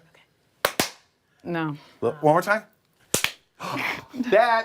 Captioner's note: laughter